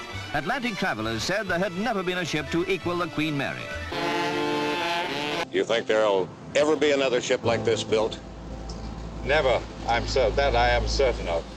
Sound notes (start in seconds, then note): 3.8 horns